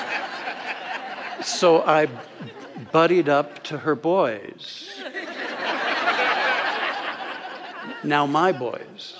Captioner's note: audience laughter